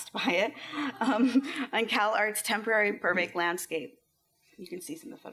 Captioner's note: laughs